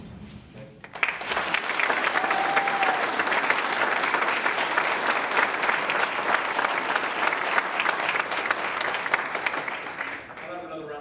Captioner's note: applause